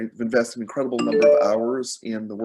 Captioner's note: phone pings